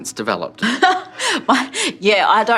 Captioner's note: chuckling